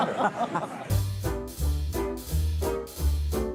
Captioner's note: laughter